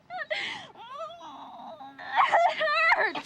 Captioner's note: groaning